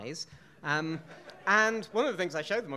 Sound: audience laughing

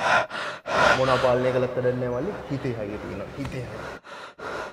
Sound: panting

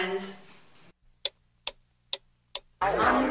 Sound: guess what. more tick tock

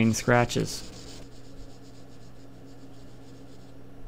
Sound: sanding

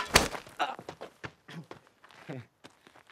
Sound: gasps and chuckles it off

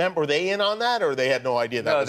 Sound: laughter

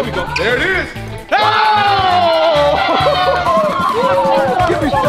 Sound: all cheering

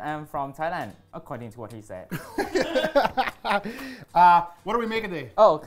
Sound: laughing

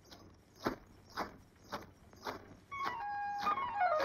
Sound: anklet Sound

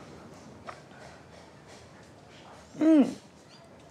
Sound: sound of Hammer In The Distance

